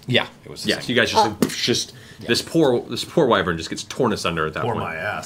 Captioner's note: impact